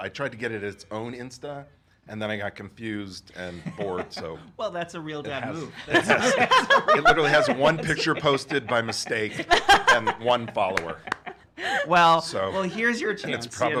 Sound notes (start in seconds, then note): 5.8 all laugh